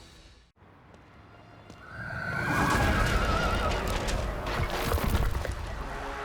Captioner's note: crash; ominous music